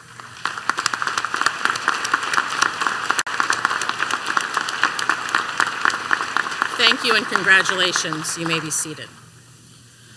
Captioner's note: applause